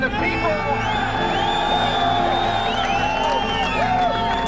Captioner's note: cheering